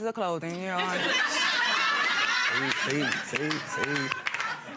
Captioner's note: audience laughing